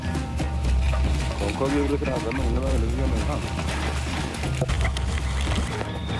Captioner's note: man speaking in a foreign language